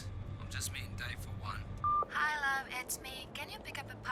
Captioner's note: beep